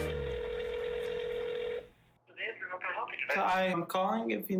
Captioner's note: phone ringing